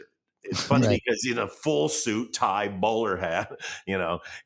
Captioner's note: chuckles